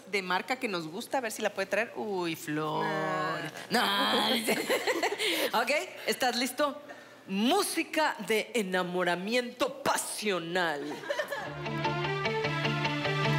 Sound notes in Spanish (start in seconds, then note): 4.2 Risas